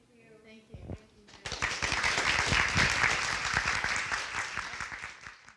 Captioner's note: applause